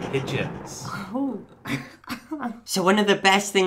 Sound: chuckles

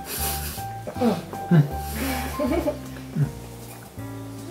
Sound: laughs

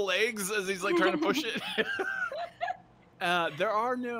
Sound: laughs

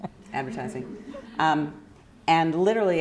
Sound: chuckling

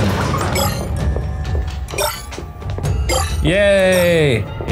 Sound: shards bleeping

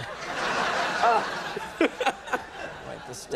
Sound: audience laughs

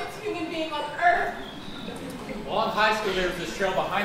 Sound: audience laughing

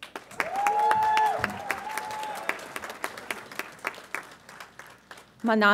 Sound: audience applauds and cheers

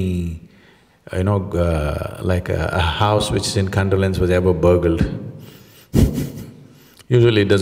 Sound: laughs

